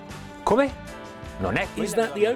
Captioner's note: speaking foreign language